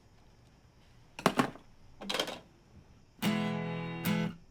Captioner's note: phone clicking and thudding; pleasant guitar music